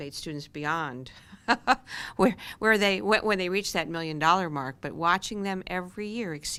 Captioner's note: laughter